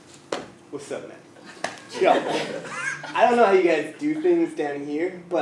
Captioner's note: laughter